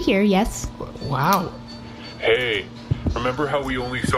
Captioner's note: whispering